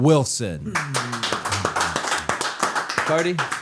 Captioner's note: hands clapping